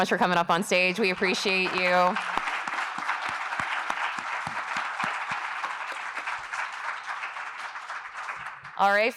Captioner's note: applause